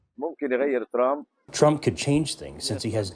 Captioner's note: through translator